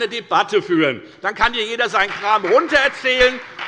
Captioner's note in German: Beifall bei der FDP und bei Abgeordneten der CDU